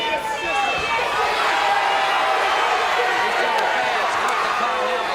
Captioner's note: audience cheers